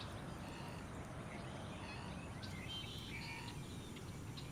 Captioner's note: birds singing